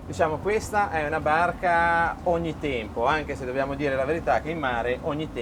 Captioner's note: man speaking in foreign language